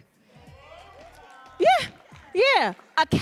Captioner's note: audience cheering